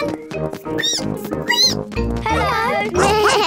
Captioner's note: squeaks; squeak